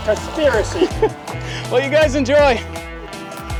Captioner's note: laughing